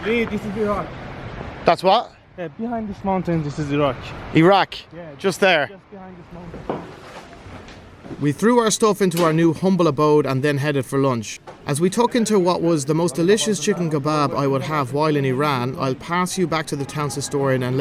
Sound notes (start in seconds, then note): 7.6 air whooshing; 7.6 shoes clacking